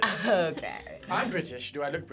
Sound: laughs

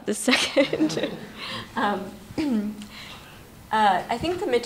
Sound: laughter

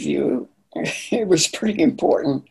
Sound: laughing

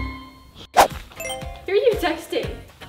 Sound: cheerful music; phone beep

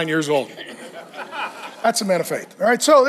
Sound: congregation laughs

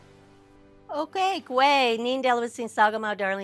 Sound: non-english speech

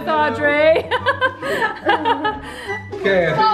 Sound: laughs

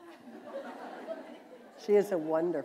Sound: laughter

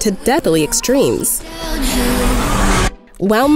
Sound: car screeches

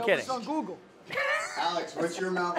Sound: laughs

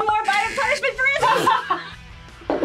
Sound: laughs; spits

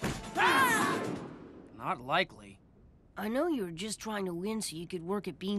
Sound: screaming

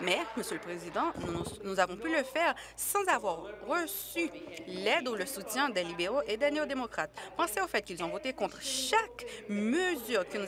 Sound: applause

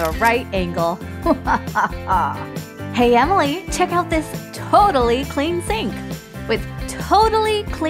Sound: evil chuckle

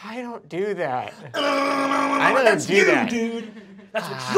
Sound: moaning wildly

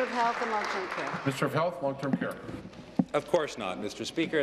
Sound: applause

